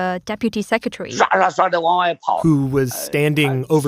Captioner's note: speaking Mandarin